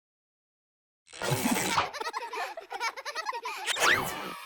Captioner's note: children laughing